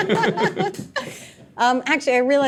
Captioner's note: all laughing